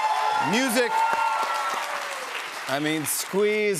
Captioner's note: cheers and applause